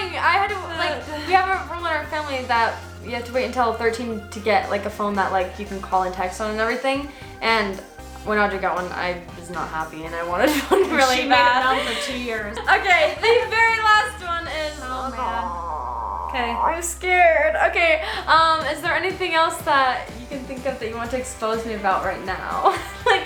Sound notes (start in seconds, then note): 10.4 laughs; 14.6 groans